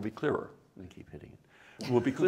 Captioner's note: laughter